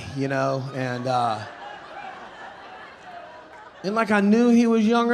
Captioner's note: audience laughing